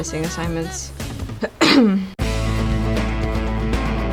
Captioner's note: cough cough